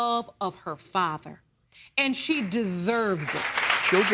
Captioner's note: audience clapping